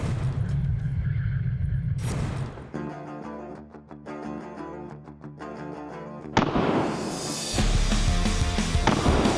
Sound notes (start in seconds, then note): 3.0 intense rock music; 6.4 gun popping